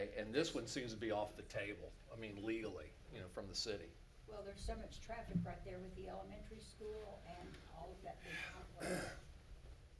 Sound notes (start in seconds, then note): 8.0 speaking faintly